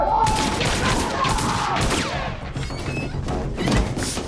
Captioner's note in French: Cri étouffé; Coups de feu